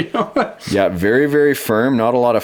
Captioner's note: laughs; voiceover